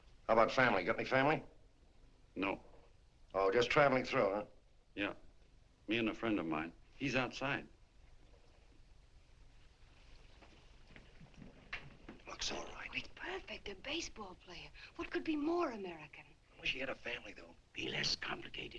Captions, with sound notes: HOW ABOUT FAMILY? GOT ANY FAMILY? NO. OH. JUST TRAVELING THROUGH, HUH? YEAH. ME AND A FRIEND OF MINE. HE'S OUTSIDE. [WHISPERING] Looks all right. He's perfect. A baseball player. What could be more American? I wish he had a family.